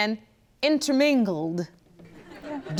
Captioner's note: audience laughs